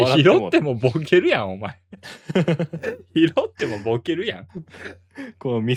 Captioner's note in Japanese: 笑い